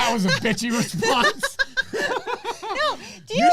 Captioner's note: laughs